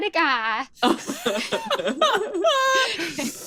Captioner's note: laughs